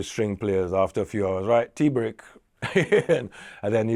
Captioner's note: chuckles